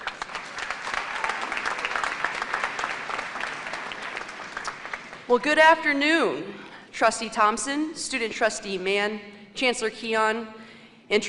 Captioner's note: applause